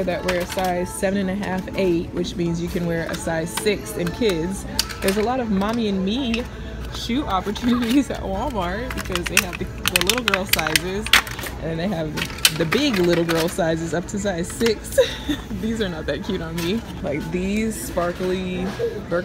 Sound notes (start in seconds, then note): 10.9 objects rattling; 14.8 giggles